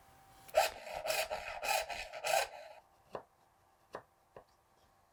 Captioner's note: saw scraping; chisel tapping